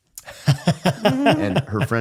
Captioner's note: both laughing